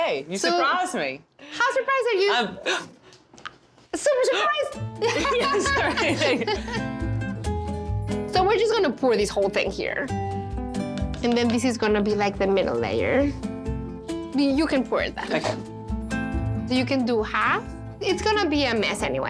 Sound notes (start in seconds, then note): 2.6 gasps; 5.0 Pati and Vivian laugh